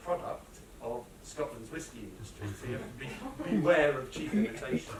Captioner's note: laughter